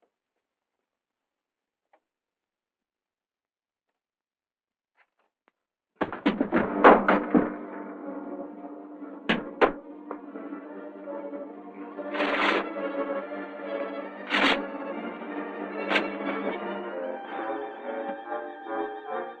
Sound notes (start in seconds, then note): 5.9 tense music; 6.0 whacking